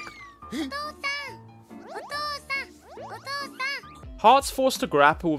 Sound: Umasou speaks in foreign language

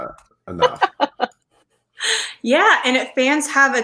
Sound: laughing

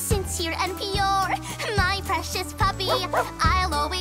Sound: barking

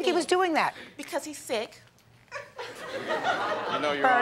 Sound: laughter

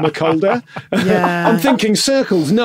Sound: laugh

